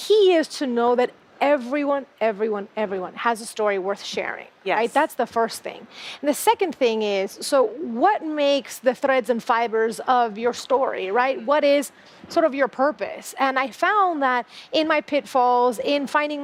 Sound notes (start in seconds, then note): none